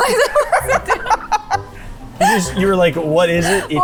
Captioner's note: laughing